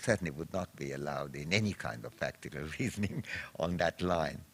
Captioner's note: chuckles